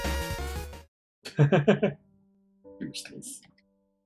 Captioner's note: laughs